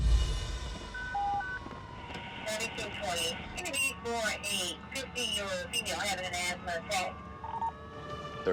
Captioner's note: beeping